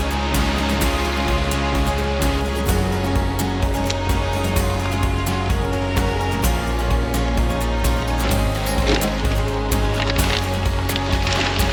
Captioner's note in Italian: Applauso